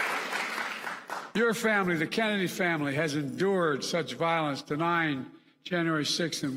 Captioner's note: applause